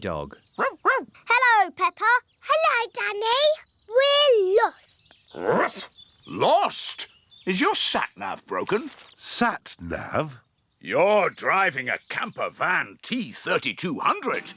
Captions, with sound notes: (BARKING) Hello, Peppa! Hello, Danny. We're lost! (BARKS) Lost? Is your Sat Nav broken? Sat Nav? You're driving a camper van T3200.